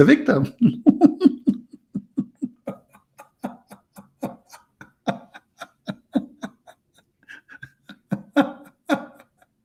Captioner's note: Ketawa